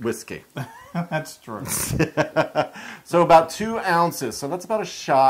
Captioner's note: laugh